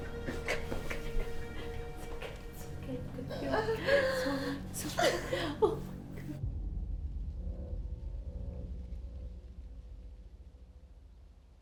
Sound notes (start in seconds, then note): 0.0 panting; 3.4 Belle crying